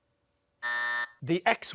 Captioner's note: buzzer